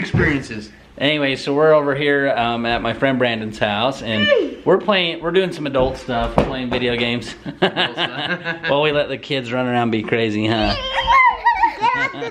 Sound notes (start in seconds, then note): 7.3 laughing; 10.5 children laughing